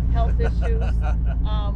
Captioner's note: laughing